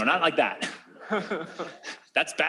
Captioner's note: laughter